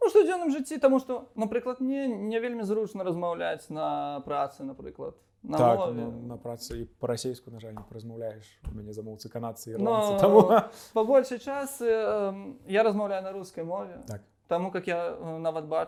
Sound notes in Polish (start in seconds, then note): 9.9 śmieje się